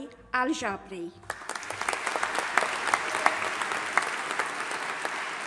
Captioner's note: audience applauding